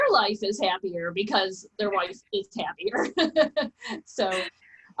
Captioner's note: laughs